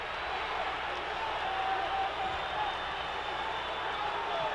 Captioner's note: audience chattering